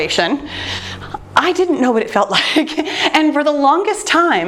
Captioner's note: laughs